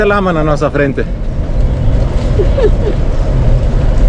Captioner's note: laughs